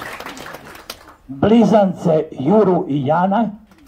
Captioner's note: applause…